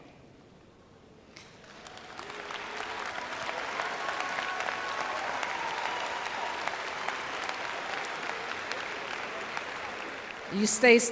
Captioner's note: applause